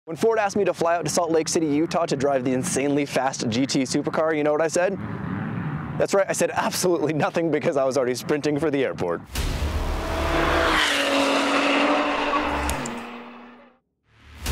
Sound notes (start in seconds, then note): 9.1 engines roaring